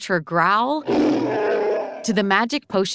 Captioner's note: Chewbacca growling